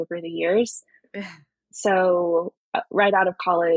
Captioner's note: <Laugh>